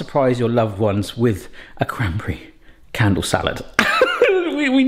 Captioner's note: laughs